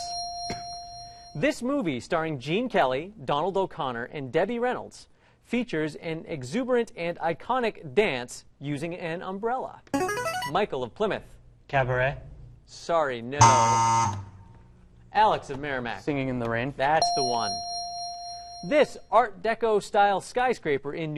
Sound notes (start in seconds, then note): 9.9 ringer; 13.4 buzzer; 17.0 ding